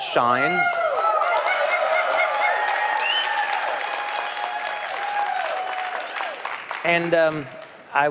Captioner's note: เสียงปรบมือ